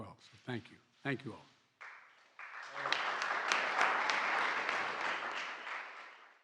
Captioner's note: applause